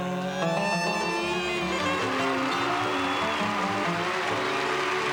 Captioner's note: applause